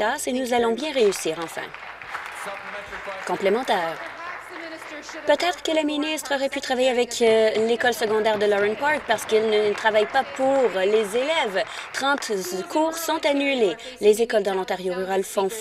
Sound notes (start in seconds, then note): 4.8 some Applause